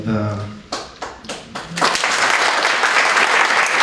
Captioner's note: applause